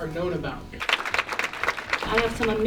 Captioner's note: applauses